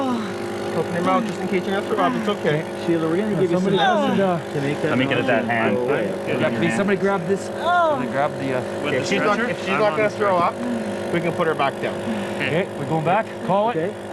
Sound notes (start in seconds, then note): 3.7 groaning